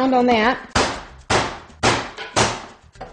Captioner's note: sound of hammer smacking loudly